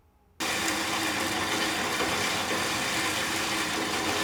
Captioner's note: metal grinding